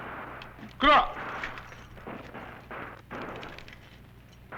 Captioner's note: non-english speech